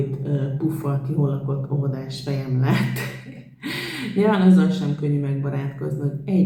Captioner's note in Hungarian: nevetés